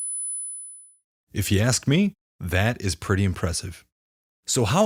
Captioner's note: high-pitched, 10kHz tone